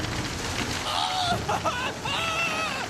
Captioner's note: screaming